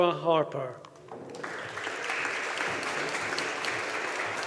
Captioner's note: audience applauding